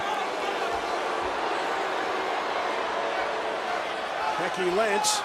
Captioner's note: audience jeering